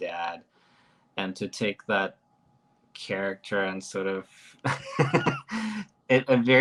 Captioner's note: chuckles